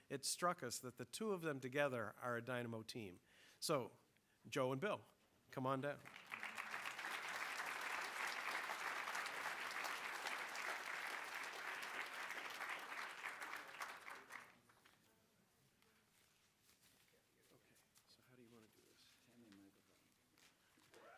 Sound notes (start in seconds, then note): 5.9 applause